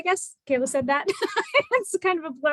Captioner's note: laughter